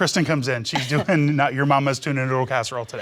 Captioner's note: laughter